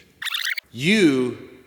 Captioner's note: record scratching